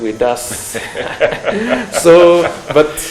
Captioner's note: both laughing